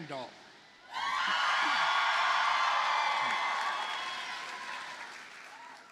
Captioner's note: audience cheers and applauds